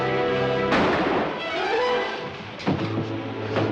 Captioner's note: banging